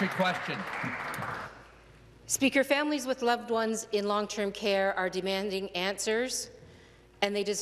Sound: some Applause

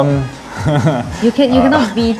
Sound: nervous laugh

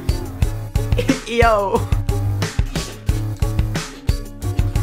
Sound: laughs

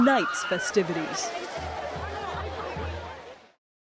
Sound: people talking/screaming; people singing in Spanish

